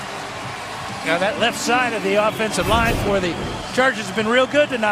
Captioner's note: cheers and applause